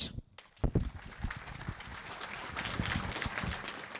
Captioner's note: applause